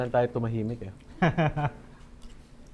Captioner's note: chuckles